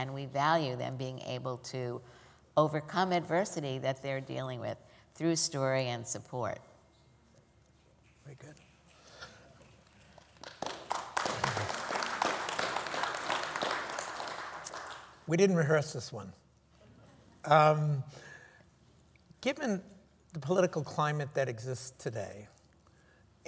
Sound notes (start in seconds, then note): 9.6 applause